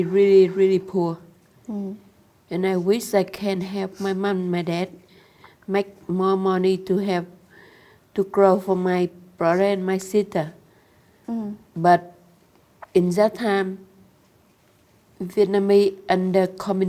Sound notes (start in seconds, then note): none